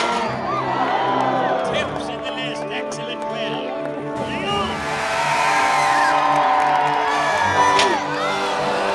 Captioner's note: sound of the Master of Ceremonies